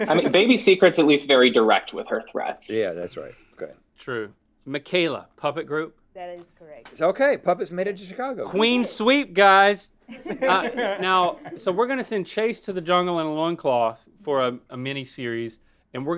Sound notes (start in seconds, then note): 10.1 laughing